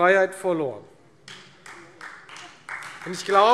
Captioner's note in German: Beifall Freie Demokraten